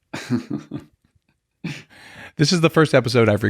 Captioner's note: laughing